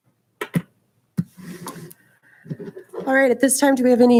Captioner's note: door closes